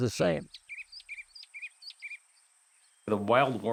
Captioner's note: bird chirping